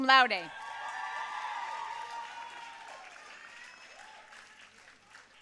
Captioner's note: audience cheering and applauding